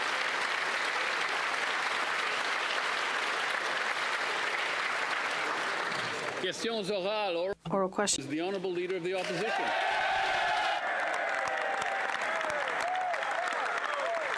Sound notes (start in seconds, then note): 2.8 applause; 12.4 speaking French